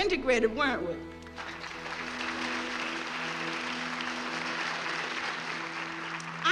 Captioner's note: applauding